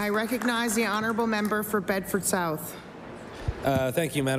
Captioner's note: applause